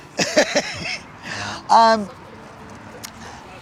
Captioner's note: chuckles